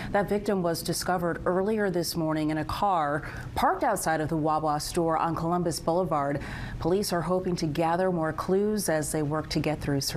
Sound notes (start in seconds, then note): none